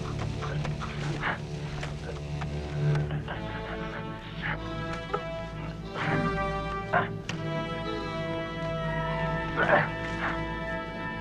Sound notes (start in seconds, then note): 0.0 Beast panting; 3.3 both grunting; 7.8 Beast whines